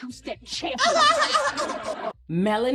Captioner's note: laughing